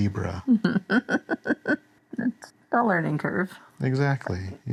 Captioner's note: laughs